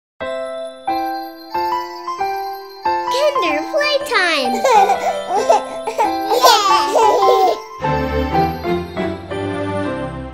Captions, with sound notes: Kinder Playtime! (children laughing)